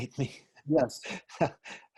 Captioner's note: laughing